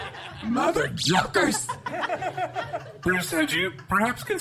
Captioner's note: audience and cast laughter; further laughter